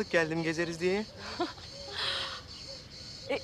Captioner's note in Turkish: Gülme sesi